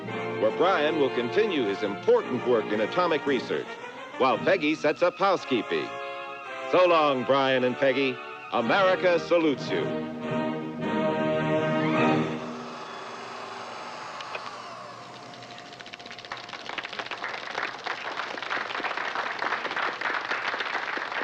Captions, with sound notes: where Brian will continue his important work in atomic research while Peggy sets up housekeeping. So long, Brian and Peggy. America salutes you [film projector whirring, end of film reel clacking] [clapping, applause]